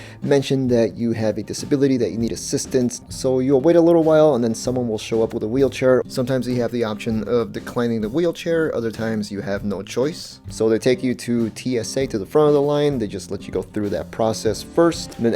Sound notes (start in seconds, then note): 6.0 voice over